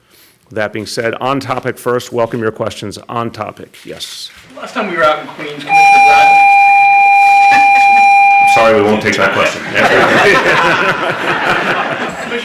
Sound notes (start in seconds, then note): 5.6 loud beep; 9.5 laughter